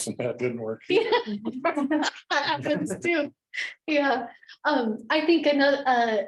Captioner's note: laughs